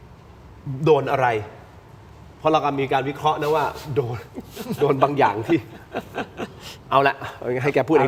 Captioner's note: laughter